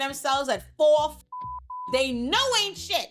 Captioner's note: beep